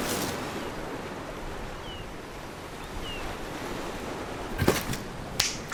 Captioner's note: seagulls and ocean waves rolling in; snaps fingers